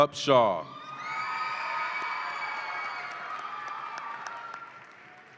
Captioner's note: audience applauds and cheers